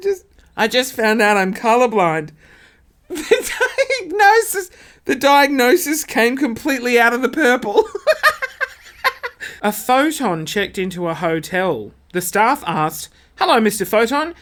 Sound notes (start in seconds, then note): 3.1 laughs; 7.8 laughing